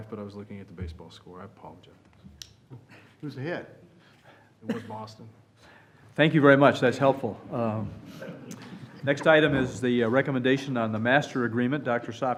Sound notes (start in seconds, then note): 8.0 laughter